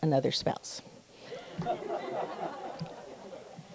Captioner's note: audience laughs